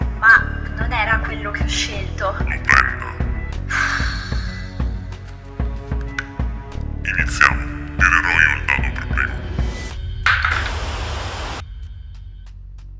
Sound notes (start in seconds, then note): 3.6 sighs